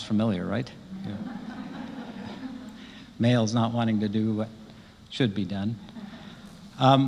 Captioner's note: laugh